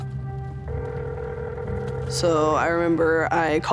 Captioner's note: phone line ringing